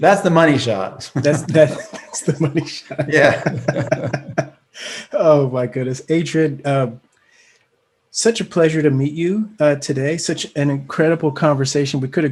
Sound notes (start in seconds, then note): 1.0 laughing